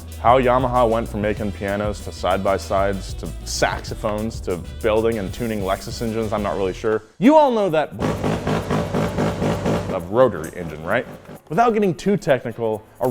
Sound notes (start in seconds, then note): 8.0 engine revving